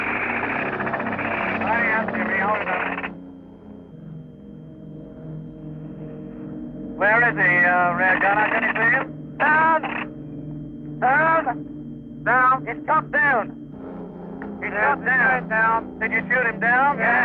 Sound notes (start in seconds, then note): 0.0 engine revving